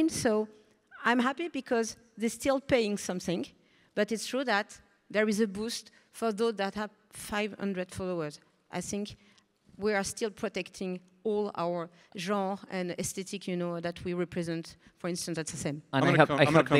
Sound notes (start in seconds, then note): none